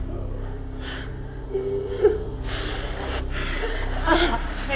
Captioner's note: David sobbing